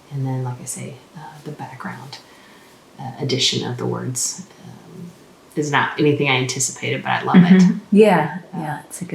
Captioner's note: more Cherokee